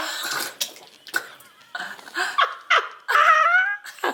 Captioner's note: laughing